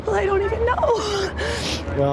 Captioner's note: gasp